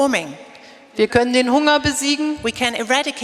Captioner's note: speaking in German